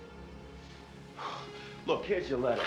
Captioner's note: Ira sighs